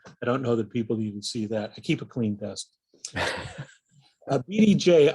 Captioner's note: aughs